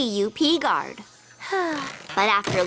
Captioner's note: sigh